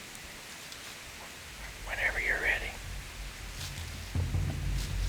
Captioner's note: whispering